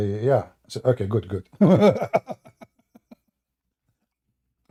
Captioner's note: Ketawa